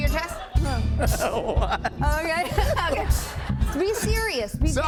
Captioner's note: laughs